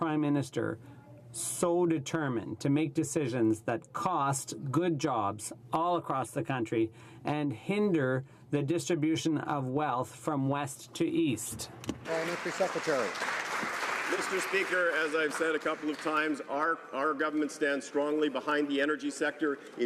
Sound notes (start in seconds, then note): 15.8 some Applause